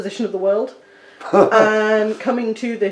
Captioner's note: laughs